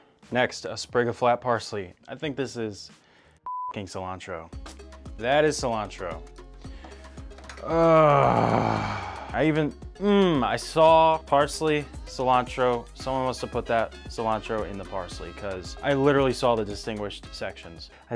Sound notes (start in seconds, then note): 3.4 beep; 7.6 groans